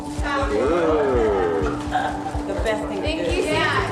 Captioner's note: family laughing